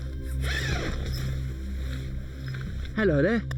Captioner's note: tent zipping